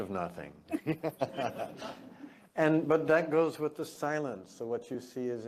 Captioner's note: laugh